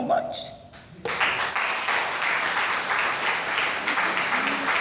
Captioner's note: audience applauding